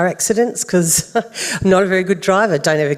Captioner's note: chuckles